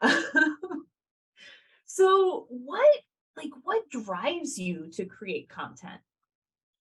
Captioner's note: laughs